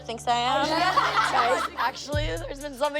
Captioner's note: laughing